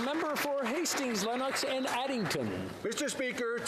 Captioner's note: some Applause